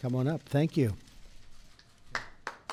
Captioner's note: applause